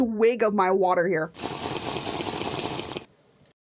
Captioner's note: Minecraft drinking sound